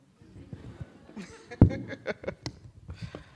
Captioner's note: laughing